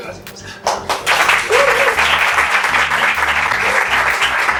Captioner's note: applause